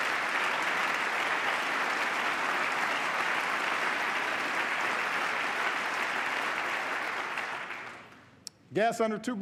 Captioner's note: applause